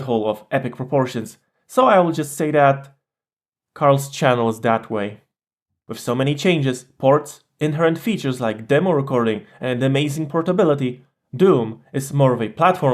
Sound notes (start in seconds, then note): none